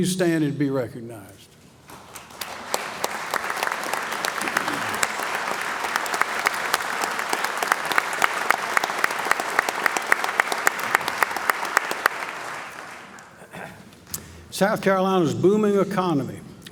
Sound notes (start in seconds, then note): 1.8 applause